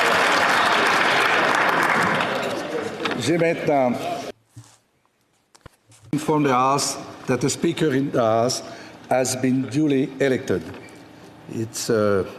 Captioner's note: applause